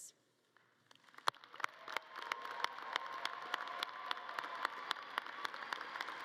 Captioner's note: audience cheering and clapping